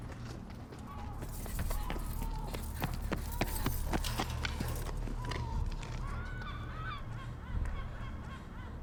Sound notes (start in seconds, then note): 1.0 dinosaurs screeching; 6.0 dramatic music